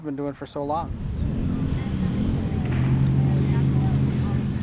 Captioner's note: engines rumbling